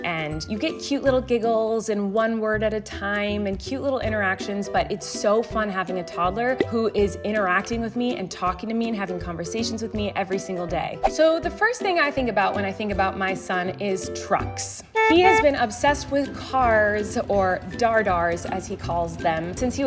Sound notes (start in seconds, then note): 14.9 car honks